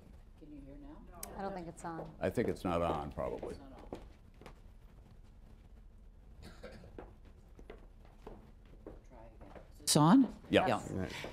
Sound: off mike; off mike

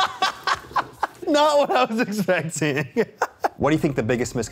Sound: laughs

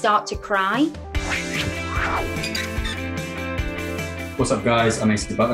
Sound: upbeat music; air whooshing

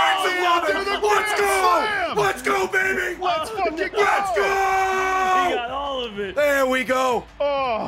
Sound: screaming

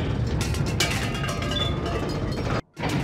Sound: rattling of tin cans

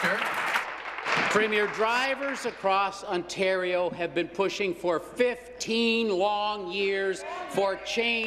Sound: applause

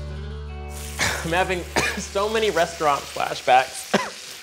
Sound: coughs; coughs

